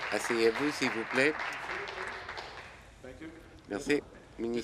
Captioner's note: applause